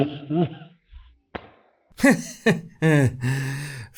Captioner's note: laughter